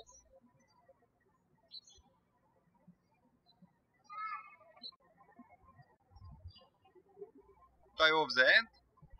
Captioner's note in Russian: птички щебечут